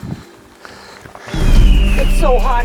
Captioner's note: bird cry